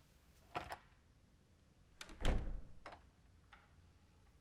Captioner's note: door closing